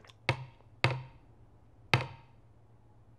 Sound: hammering

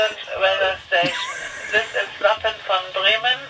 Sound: laughter

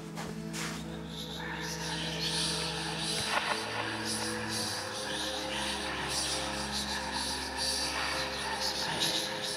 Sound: ghostly whispering

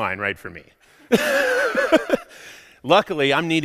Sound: laughs

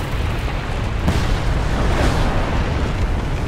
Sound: explodes

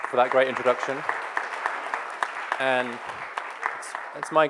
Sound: audience applauding

